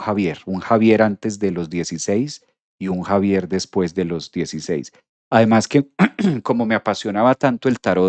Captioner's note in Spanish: carraspeo